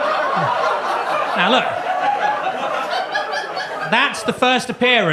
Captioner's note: audience laughs